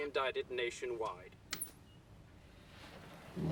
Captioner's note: television turns off